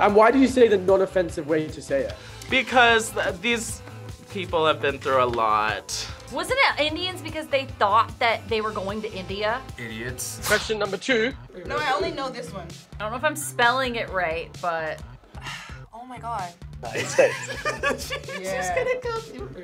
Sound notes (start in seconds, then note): 15.2 sighs; 16.9 laughs